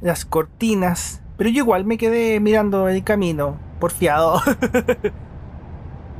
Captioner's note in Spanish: risas